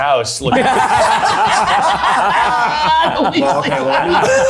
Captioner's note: everyone laughing